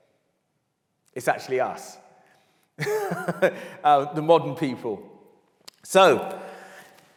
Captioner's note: laughs